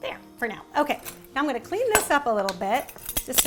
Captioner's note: none